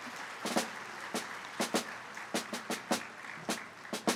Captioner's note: applause